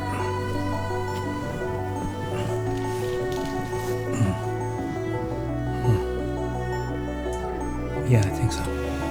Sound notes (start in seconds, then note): 5.4 groaning